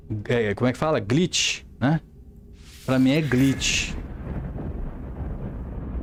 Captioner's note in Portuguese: glitch